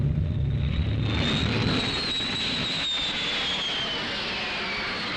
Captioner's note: planes whistling